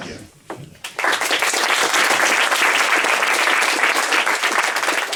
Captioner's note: applause